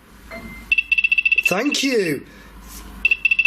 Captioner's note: beeping